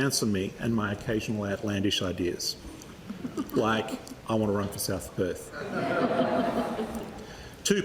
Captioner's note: laughter